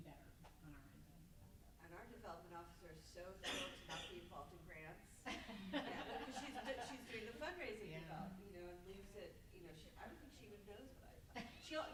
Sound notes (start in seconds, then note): 5.3 group laughs